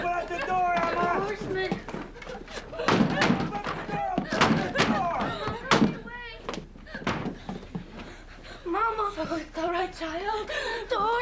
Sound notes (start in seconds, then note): 0.0 sobbing and muttering